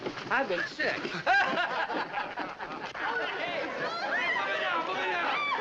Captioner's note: laughter and chatter